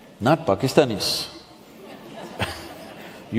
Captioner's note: few laugh